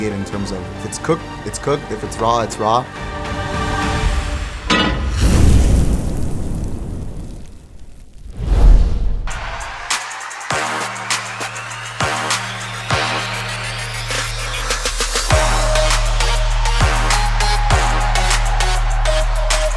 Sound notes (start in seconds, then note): 4.6 clangs; 4.7 sizzles; 9.0 upbeat music